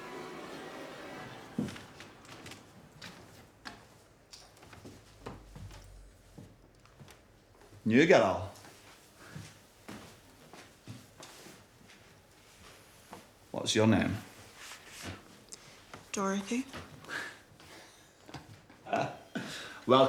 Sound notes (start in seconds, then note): 1.8 book thuds; 17.2 Johnny laughs